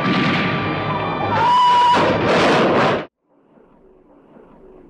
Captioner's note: breaks squealing; car crashing